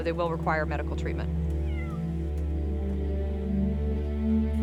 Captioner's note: cat meows